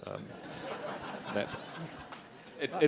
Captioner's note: laughter